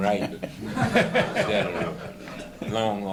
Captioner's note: laughter